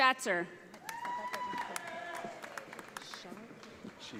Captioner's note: audience applauding